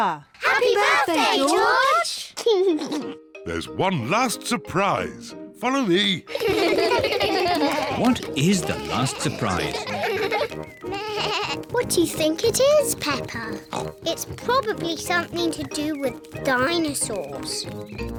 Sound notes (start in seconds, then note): 2.4 laughs; 6.2 kids laugh; 10.8 bleats; 13.6 oinks